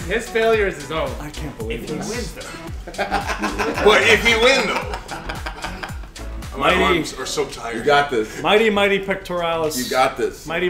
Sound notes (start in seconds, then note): 1.8 laugh